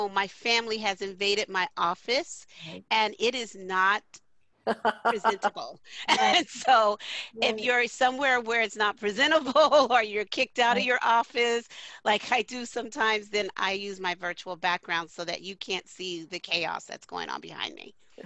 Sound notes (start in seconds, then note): 4.6 laughter